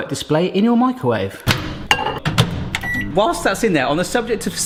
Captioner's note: clanging